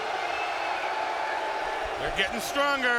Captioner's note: audience cheering